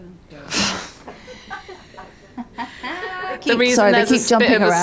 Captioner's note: woman laughing